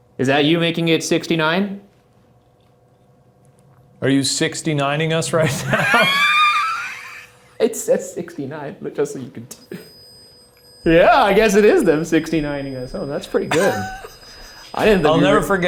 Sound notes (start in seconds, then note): 5.5 both laughs; 13.3 Shane laughs